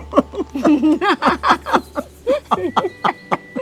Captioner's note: both laughing